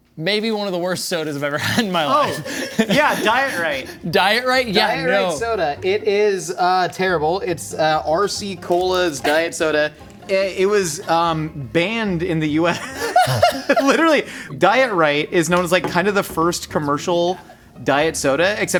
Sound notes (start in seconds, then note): 1.6 chuckling; 12.4 laughing